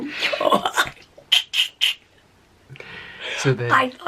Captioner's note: laughing